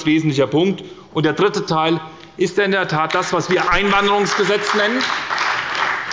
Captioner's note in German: Beifall bei der SPD